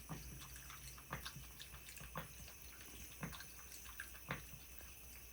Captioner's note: sounds of cat licking from faucet